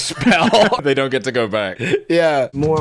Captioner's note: laughing